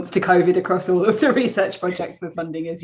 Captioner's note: chuckles